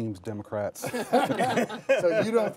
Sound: laughter

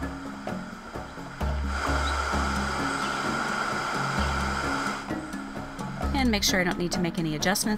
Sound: nature noises

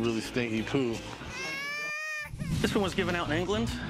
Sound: baby crying sound effect

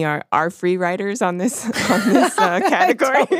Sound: both laugh

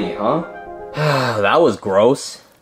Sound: Luigi sigh

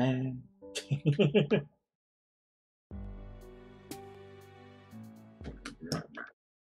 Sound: laughs

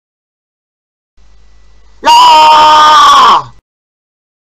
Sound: boy shout

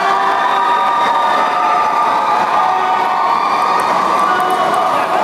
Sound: applause

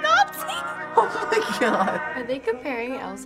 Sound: laughing

